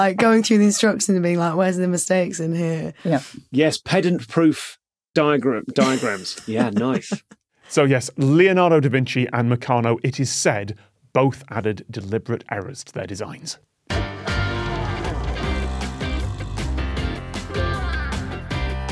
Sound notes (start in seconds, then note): 5.8 chuckles